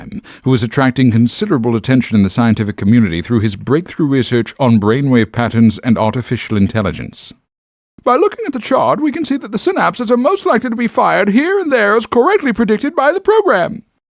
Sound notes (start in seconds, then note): none